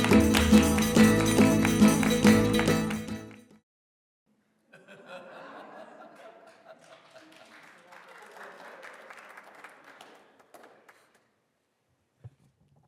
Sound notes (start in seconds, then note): 0.0 cheerful strings music continues; 4.7 group laughing; 6.1 group applauding